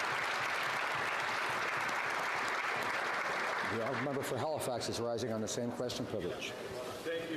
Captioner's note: applause